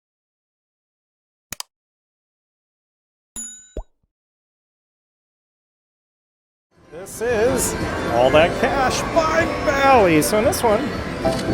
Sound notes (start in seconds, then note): 1.5 mouse clicks; 3.3 bell dings